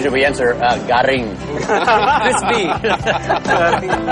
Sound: non-english speech; laughing

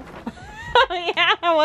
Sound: laughing

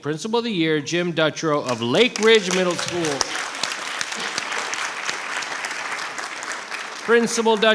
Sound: applause

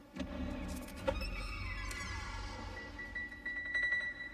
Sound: door creaking; suspenseful music

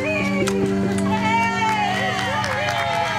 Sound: cheering, applause

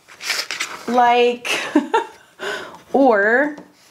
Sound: laughs

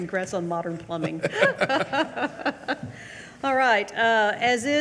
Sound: both laugh

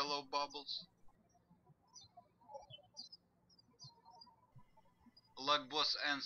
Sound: birds chirping

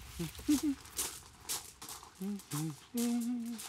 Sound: humming

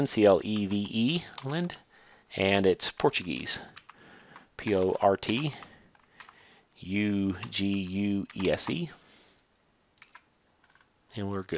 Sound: typing

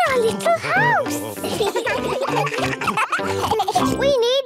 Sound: children giggling

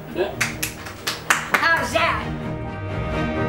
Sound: clapping

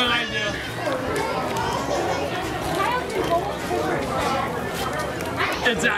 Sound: indistinct background chatter

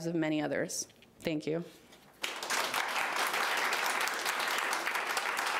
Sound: audience applauding

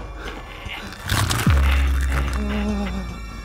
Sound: chomp; crunch

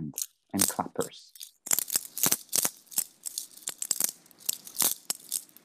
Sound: cranking

